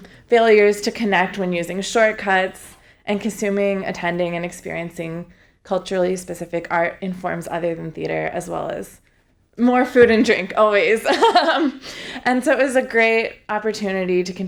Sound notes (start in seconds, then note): 10.8 laughs